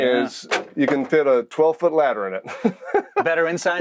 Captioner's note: laughs